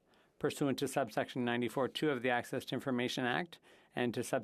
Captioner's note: speaking French